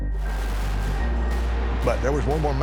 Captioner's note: pyrotechnics sizzling